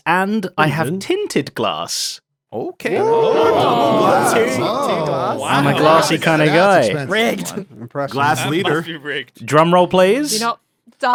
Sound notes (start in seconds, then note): 2.8 chatter